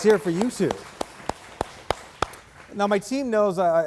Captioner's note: audience applauding